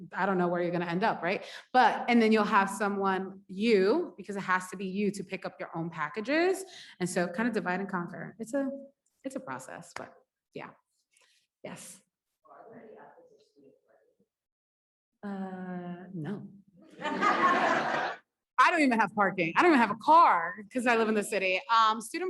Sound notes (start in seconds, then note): 13.5 speaks faintly; 17.0 audience laughs